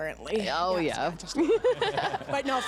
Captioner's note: laughter